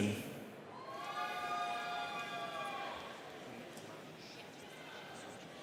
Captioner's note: students cheering